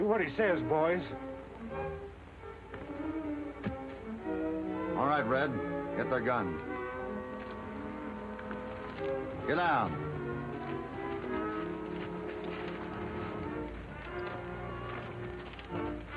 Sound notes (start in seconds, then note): 2.3 dramatic music; 3.9 weapons thud; 7.5 dramatic music